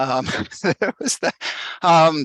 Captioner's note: laughing